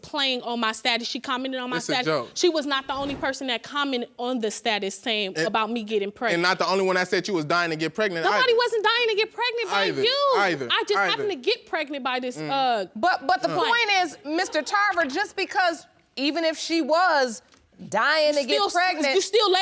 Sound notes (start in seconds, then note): none